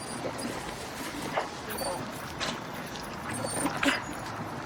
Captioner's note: dog whining